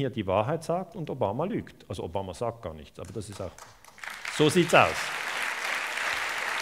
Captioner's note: applause